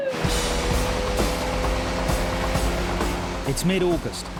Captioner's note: alarm blaring; engine roaring; bright rock music